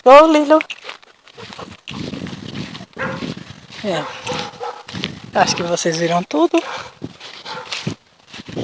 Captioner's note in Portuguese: fala em inglê com o cachorro "Vamos, vamos, pequeno; cachorro da vizinha latindo ao longe